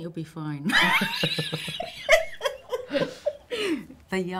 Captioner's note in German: lachen